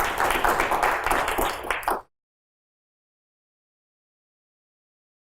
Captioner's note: audience applauding